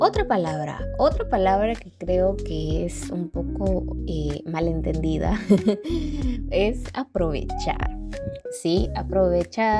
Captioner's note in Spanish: risas